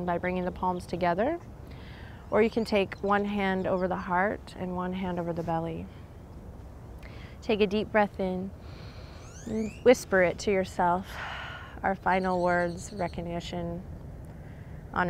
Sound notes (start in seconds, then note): 8.6 blows out breath; 8.6 takes deep breath